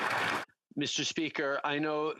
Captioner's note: applause